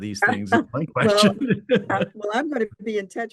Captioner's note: laughs